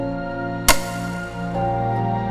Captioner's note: slate clapping